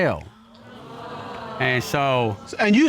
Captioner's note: audience exclaims